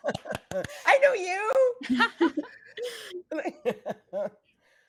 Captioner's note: actors laughing